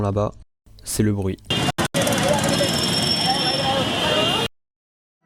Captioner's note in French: Bruits circulation